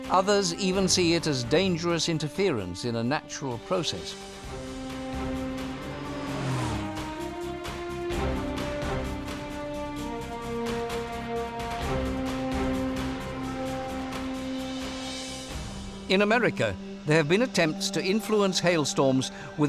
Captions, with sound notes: Others even see it as dangerous interference in a natural process. [swoosh] [adventurous music] In America, there have been attempts to influence hailstorms